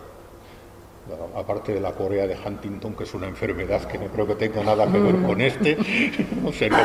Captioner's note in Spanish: risas